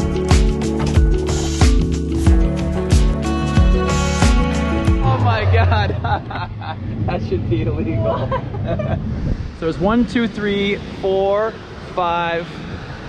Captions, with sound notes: Oh my god! (laughs) That should be illegal. (both laughs) So there's one, two, three, four, five, six